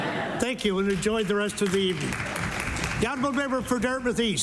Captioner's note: laughter